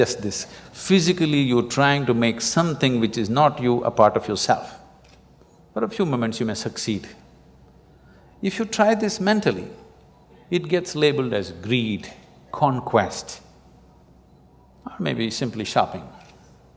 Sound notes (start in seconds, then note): none